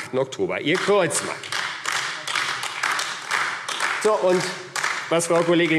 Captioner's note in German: Beifall AfD